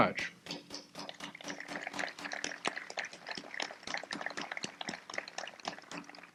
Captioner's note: applause